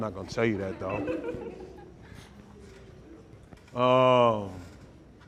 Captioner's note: audience chuckles